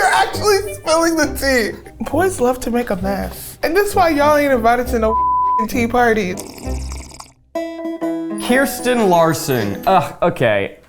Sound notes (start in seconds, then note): 6.1 liquid slurping